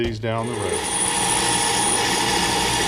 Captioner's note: mini lathe grinding